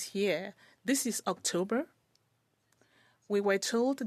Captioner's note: speaking French